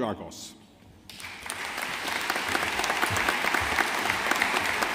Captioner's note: audience applauding